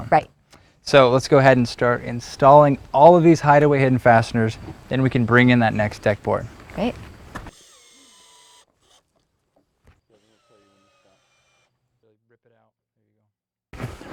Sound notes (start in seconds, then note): 6.9 drill whirring, no additional audio